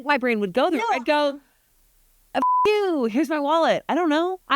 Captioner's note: beep